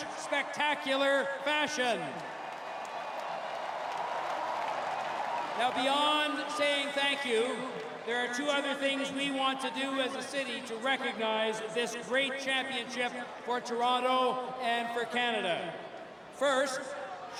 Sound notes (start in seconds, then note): 6.5 applause; 6.9 cheering